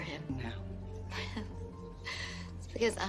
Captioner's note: laughs; chuckles